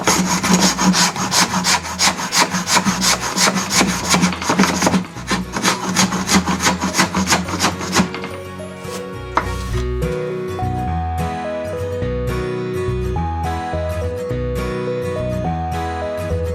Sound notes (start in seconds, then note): 1.7 instrumental background music begins; 1.7 wood continues to be shaved; 8.7 instrumental background music continues